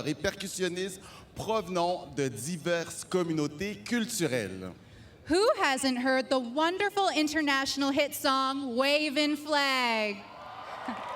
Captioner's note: speaking french